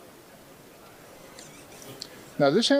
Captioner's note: label squeaking